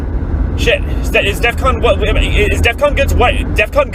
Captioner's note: stammers